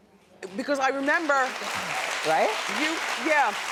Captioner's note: applause